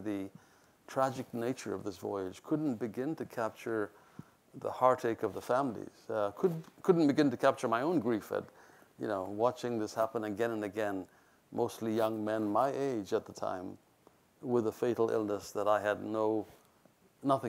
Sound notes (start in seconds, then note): none